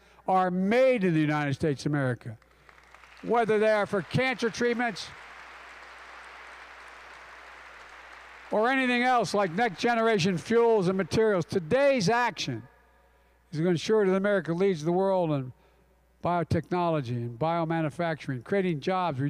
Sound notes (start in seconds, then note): 2.8 applause